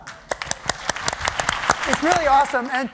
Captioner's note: applause